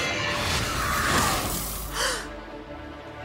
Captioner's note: gasps